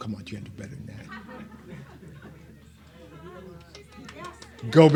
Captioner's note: laughs and cheers